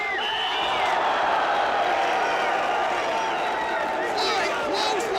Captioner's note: whistle blowing; crowd gasping